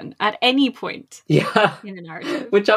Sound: laughing

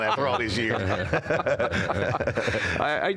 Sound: all laughing

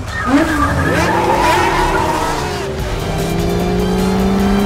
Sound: engines revving; tires screeching; exciting music

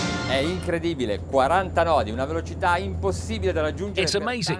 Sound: speaking Italian

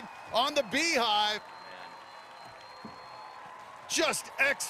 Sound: cheers and applause

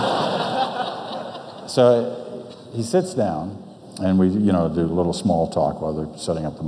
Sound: audience laughs

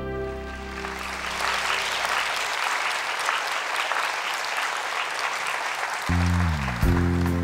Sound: applause

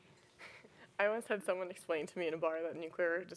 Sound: laughs

